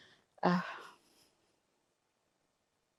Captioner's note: sighing